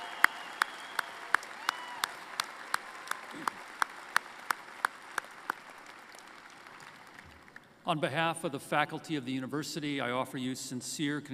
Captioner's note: applause